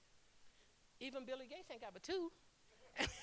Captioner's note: laughter